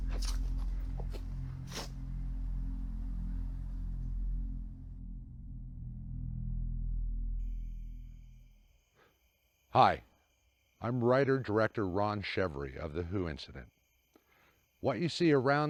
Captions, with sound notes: (eerie music) (crickets) Hi, I'm writer director Ron Chevarie of The Who Incident.